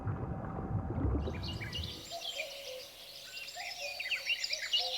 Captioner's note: birds chirping